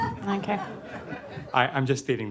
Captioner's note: laughter